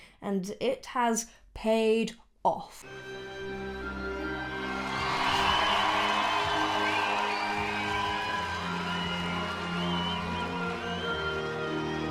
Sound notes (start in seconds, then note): 2.8 ethereal music begins; 3.6 crowd cheering